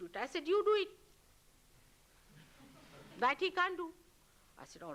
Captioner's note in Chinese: 笑聲